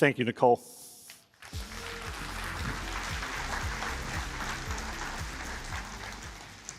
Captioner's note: applause